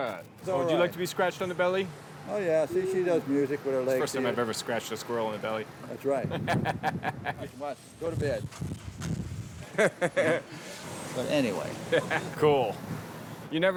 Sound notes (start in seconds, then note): 6.3 laughs; 9.6 laughs